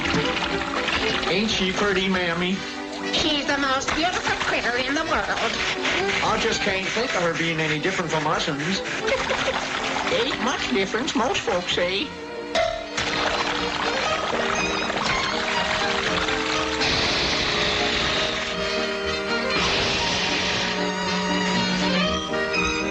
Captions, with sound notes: - Ain't she pretty, Mammy? - She's the most beautiful critter in the world. - I just can't think of her being any different from us-uns. (Pappy giggling) - Ain't much difference, most folks say. (brush bopping) (lively music) (Pappy blowing) (lively music)